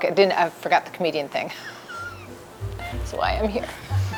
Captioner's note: laughing